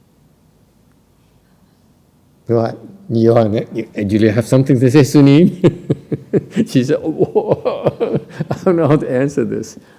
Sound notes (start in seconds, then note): 5.5 laughter